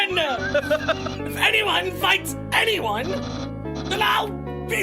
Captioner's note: laughs